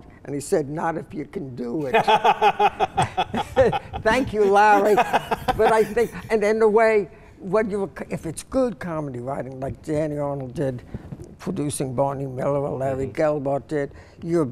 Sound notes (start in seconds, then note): 1.9 laughing